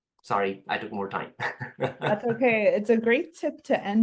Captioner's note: laugh